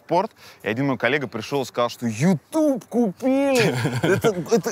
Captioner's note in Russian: смеётся